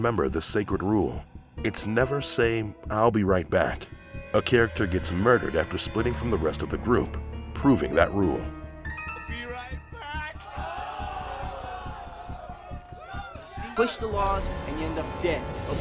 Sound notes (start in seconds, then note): 10.6 yelling